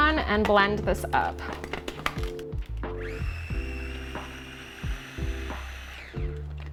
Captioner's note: blender sounds